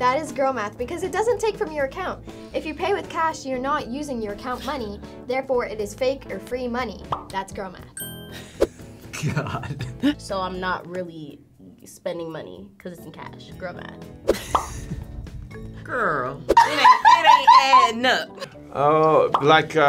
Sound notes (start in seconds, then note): 7.0 bubble pops; 8.0 bell dings; 9.2 chuckles; 14.3 chuckles; 14.5 bubble pops; 16.6 laughs